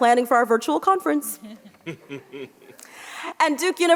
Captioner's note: group laughs